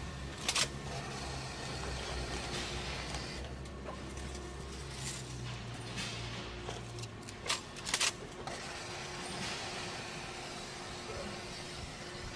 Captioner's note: drill whirring